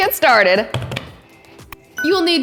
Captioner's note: hands thudding